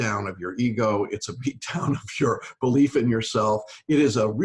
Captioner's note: laughs